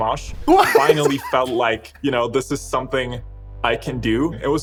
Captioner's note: laughs